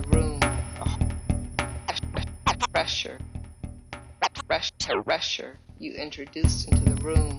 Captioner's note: tape rewinds